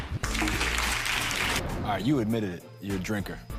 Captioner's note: clapping